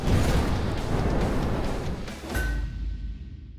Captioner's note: clang